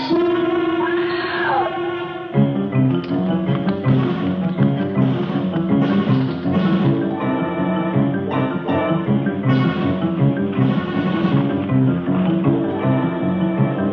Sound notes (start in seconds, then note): 0.8 screams